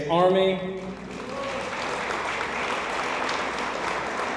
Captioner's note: audience applauds